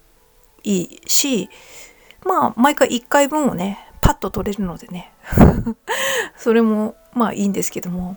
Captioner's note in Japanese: 息をのむ音